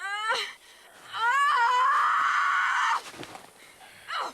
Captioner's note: groaning; screaming; whimpering